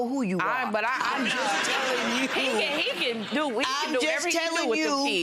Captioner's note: audience laughs